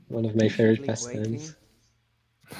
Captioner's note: laughing